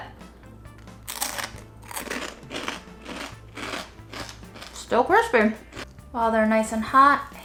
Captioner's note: crunching